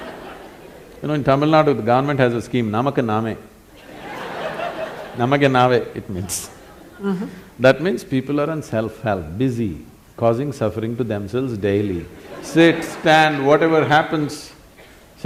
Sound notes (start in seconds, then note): 0.0 laughter; 0.0 笑聲; 3.8 laughter; 3.8 笑聲; 5.4 in Kannada; 12.2 laughter; 12.2 笑聲